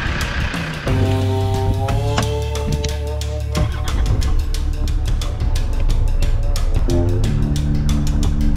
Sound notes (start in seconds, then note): 3.6 vehicle cranking